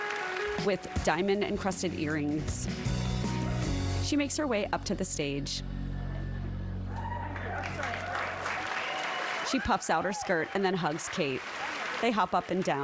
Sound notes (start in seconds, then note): 0.7 applause